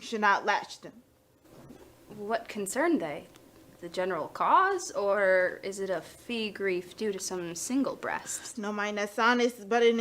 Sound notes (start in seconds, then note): none